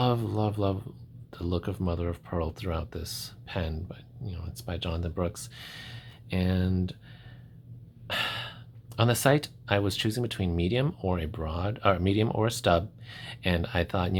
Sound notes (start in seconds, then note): 5.9 little sigh